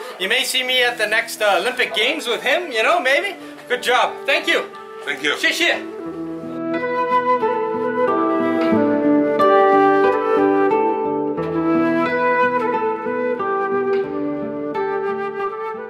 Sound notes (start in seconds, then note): 6.0 speaking Chinese; 7.7 soft oriental music